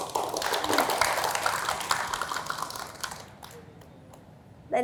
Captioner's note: applause